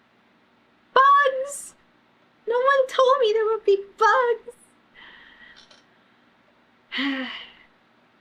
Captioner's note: sighs